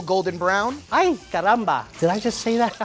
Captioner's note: speaks in foreign language